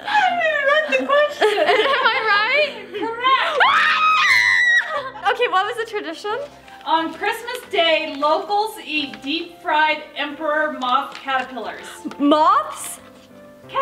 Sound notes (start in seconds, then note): 3.5 screaming